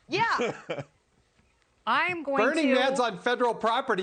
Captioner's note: laughter